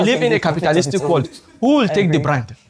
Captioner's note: laughs